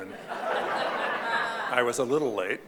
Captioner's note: audience laughing